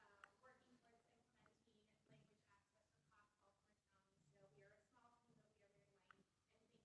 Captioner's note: faintly speaking; faintly speaking